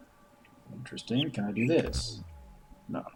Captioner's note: bird chirps high-low